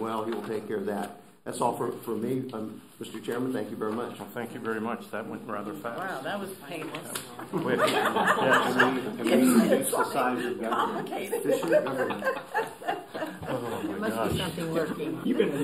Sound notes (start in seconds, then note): 7.3 laughter